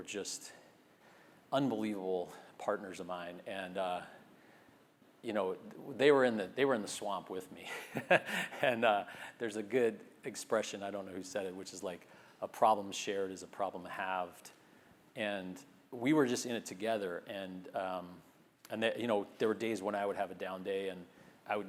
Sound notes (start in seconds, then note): 7.7 laugh